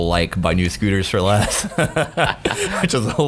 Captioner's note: laughing